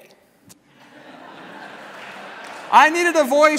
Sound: laughter

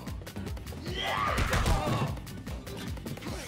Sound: shouting

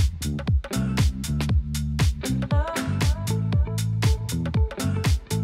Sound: none

